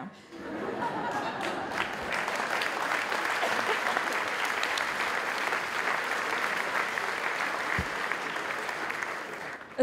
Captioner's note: applause